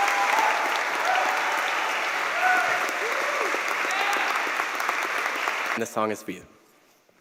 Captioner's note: cheers and applause